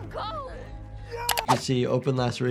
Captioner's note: Brandyworth yelling